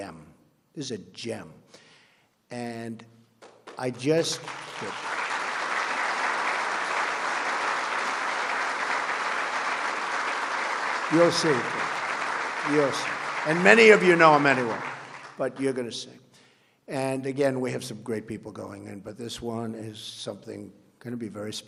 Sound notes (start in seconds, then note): 5.3 applause